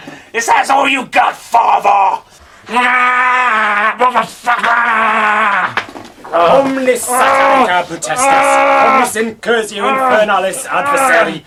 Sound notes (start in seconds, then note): 6.6 man speaking foreign language